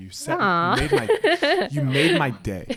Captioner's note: laughs